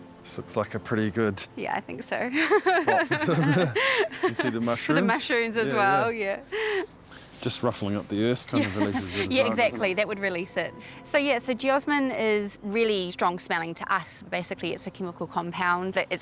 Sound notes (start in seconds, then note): 2.4 laughs